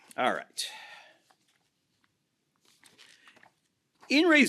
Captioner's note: papers rustle